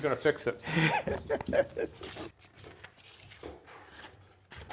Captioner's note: laughing